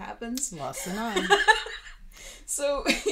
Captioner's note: laughing